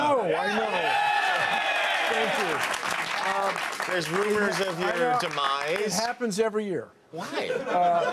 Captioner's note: laughter